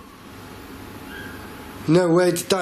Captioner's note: squeaking